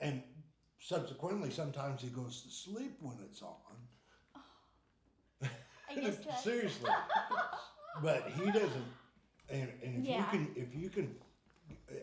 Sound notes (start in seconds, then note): 6.4 laughing